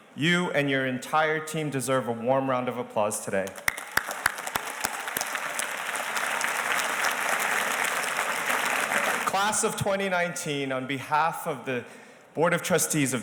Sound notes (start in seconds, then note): 3.4 audience applauding